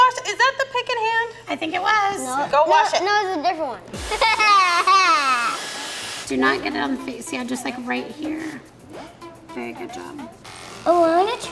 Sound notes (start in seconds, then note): 4.0 blow dryer blowing; 4.0 laughing; 4.2 upbeat music; 9.9 clippers vibrating